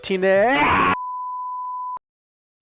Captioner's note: sine tone SFX